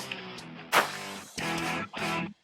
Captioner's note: arrow shot; gunshot